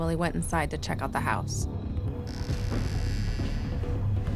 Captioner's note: door creaking; suspenseful music